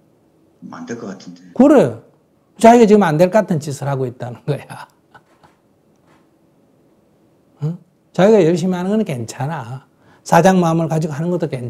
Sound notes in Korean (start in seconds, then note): 7.1 웃음